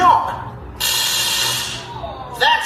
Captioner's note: electric shocking